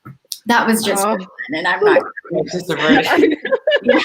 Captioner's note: laughs